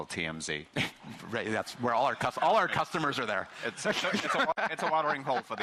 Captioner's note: chuckling